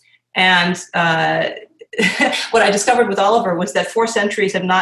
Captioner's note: laughs